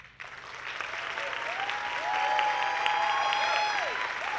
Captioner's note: audience clapping